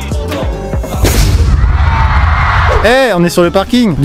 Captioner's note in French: bruit d'explosion